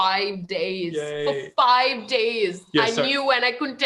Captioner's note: audio glitch